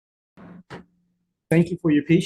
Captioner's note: gavel knock